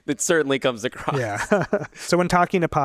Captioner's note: chuckles